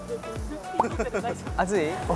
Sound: haha

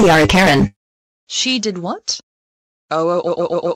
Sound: Mrs. McCall on phone

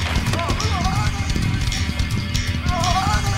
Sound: Georges shouting; heavy metal music

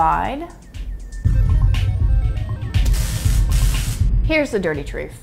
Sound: electronic ringing

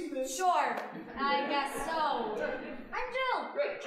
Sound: audience laughing

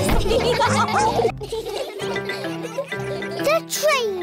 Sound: all giggle; laughter

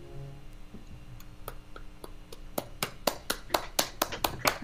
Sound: applause and cheering

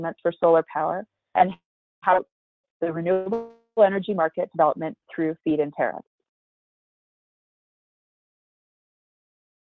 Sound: break in audio

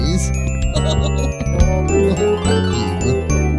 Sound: barney chuckling

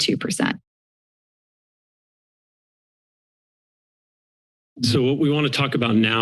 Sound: silence

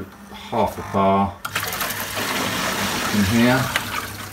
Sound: water running

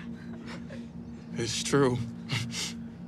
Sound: sniffles

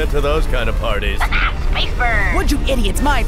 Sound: laughs

